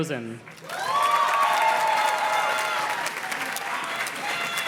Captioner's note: audience cheers and claps